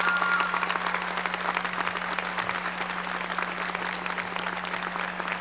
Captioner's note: audience applauding